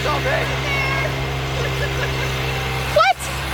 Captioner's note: giggles